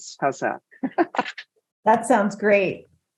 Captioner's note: laughs